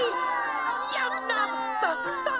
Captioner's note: Ewoks cheering; cheers